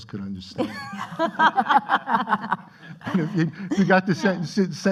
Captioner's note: laughing